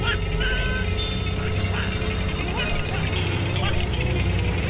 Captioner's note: cynical laughter continues